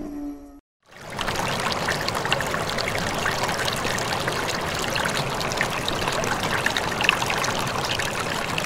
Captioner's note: water flowing sound